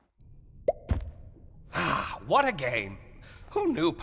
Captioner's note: pop!